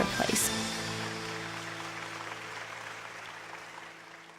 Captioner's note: applause